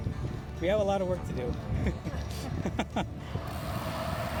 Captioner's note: laughter